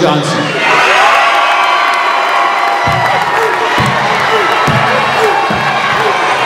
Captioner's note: audience applauding and cheering